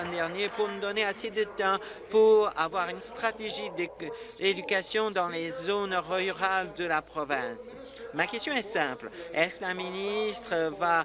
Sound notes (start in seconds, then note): 2.5 applause